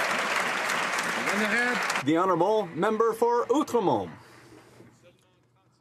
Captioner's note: some Applause